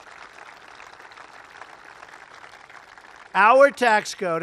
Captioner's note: applause